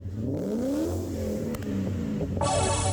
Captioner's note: engine revving